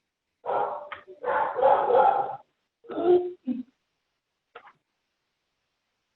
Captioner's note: dog barking in the background